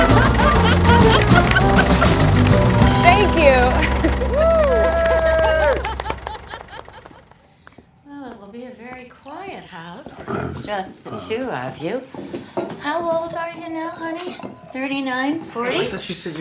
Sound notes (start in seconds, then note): 0.0 laughing; 7.0 Drew laughing